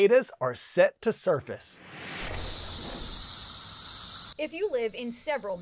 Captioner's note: voice-over